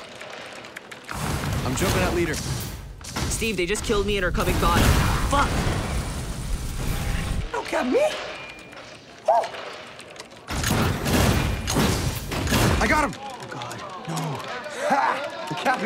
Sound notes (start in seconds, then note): 0.0 keyboard clicking; 8.4 keyboard clicking; 9.4 guns firing